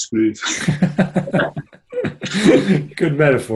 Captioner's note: both laugh